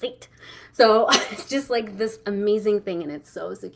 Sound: laughing

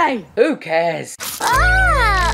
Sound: squirt

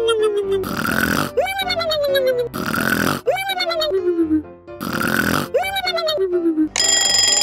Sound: loud snoring; alarm clock ringing

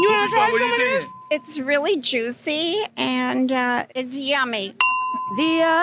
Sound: ding

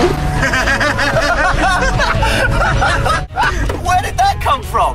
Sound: laughs

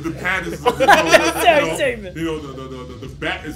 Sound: laugh

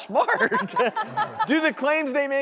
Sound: laughter

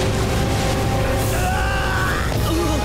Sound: screaming; grunting

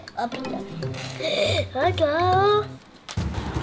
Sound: Captain Cole-man gasps

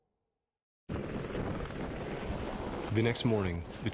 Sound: aircraft whirring

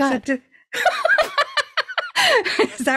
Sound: laughs

